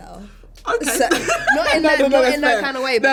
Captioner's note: laughs loudly